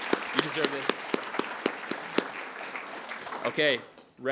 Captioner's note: attendees applauding